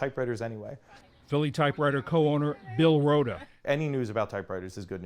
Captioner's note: voice-over